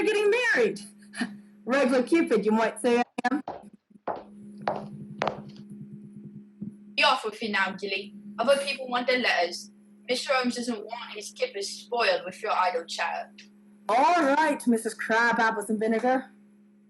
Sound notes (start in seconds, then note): 3.4 footsteps